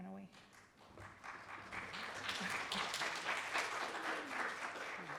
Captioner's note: applause